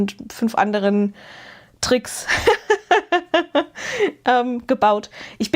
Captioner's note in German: gelächter